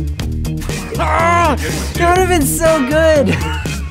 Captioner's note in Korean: 신음소리